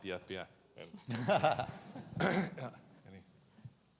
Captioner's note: chuckles